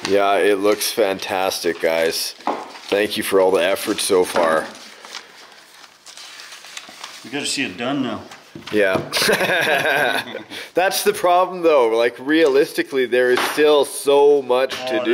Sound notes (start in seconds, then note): 9.0 men laugh